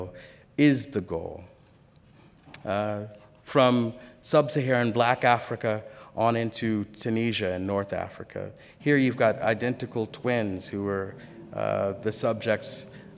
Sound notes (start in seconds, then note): none